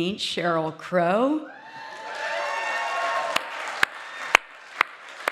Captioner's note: audience cheering; audience applauding